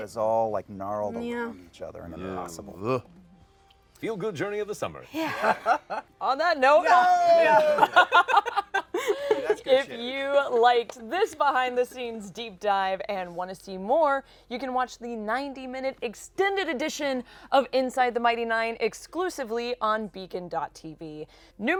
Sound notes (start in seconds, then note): 5.1 laughs; 7.5 laughter